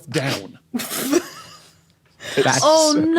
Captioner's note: guests crack up